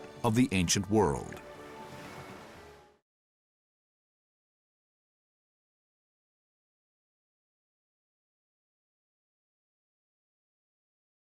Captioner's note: water burbling